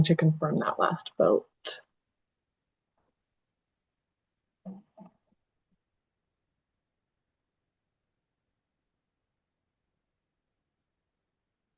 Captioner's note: pause